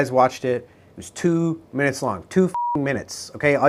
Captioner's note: beep